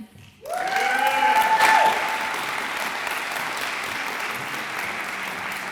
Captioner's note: audience applauds and cheers